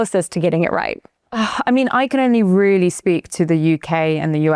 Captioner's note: sighs